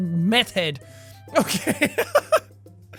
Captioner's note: laugh